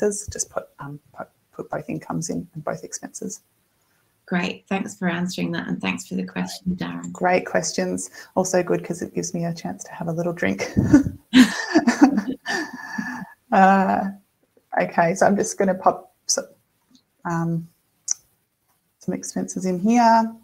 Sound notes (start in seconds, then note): 11.3 laughs